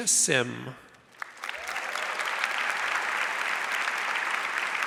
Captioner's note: audience applauds